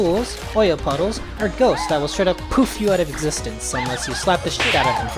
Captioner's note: poof